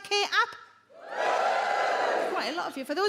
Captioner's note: audience woos